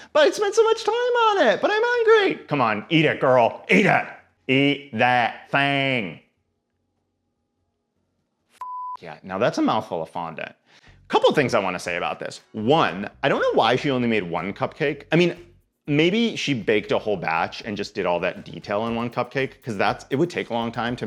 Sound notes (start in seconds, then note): 8.6 beep